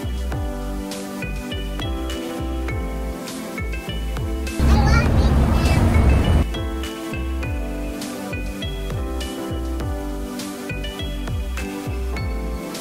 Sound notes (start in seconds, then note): 4.6 distant Chatter